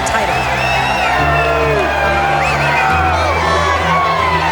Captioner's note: cheering